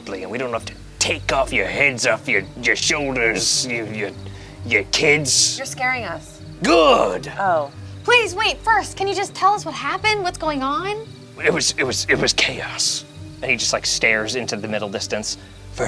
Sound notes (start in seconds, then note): none